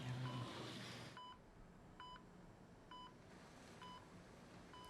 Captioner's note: machine beeps